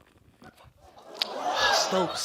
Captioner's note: audience exclaims